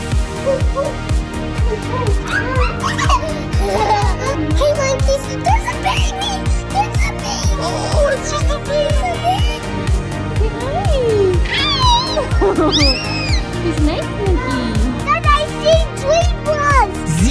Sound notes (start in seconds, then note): 0.1 upbeat music; 2.1 baby laughing; 11.5 mom laughing; 13.5 baby squealing